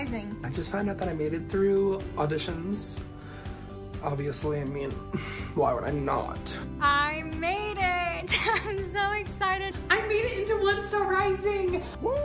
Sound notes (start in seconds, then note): 7.9 laughs